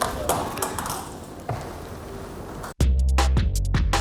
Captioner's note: crashing; upbeat music